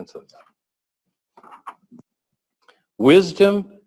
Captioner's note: pause